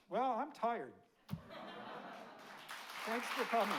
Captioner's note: audience laughing; audience clapping